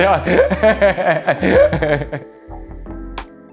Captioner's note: laughs